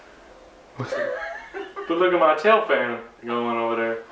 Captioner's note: laughs